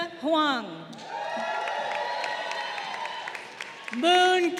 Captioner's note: crowd cheering